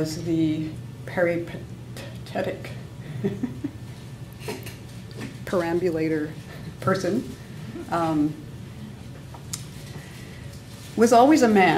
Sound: laughs

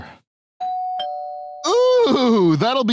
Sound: doorbell rings

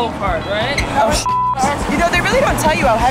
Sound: beep

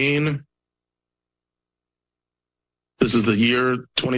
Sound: pause

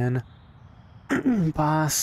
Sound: clears throat

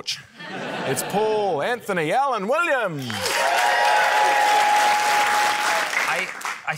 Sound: laughter; cheering, applause

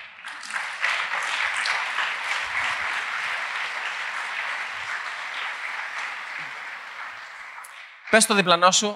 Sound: applause

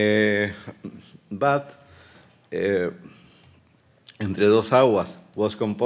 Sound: speaking Spanish

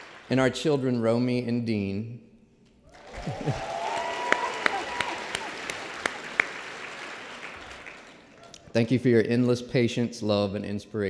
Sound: applause

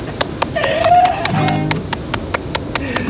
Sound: clapping

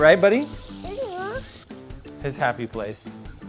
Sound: baby noise

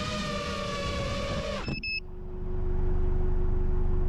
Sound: beeping

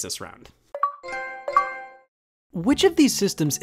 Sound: Xbox and PlayStation sounds

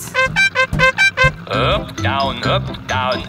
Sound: horn beeping

